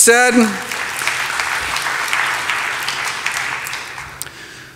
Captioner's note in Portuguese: aplausos